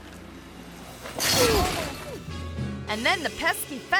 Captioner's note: fence rattles